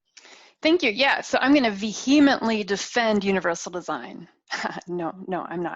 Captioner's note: chuckles